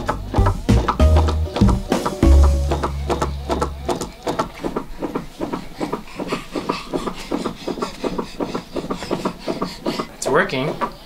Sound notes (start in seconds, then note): 0.1 weight rocking; 6.2 panting